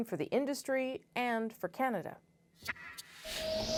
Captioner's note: none